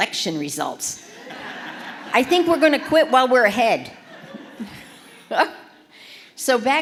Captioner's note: laughter